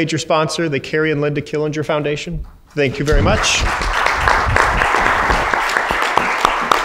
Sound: crowd applauds

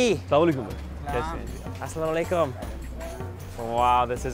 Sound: speaks in foreign language

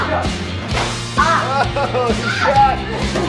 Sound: laughing

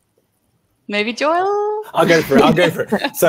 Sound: all chuckle

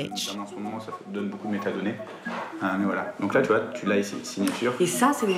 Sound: speaking in a foreign language

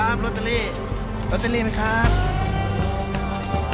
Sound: Malay Language

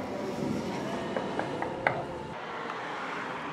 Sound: knocking on door

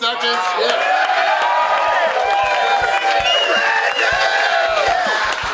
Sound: everyone cheering and clapping

